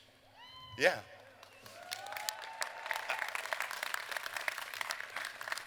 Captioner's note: applause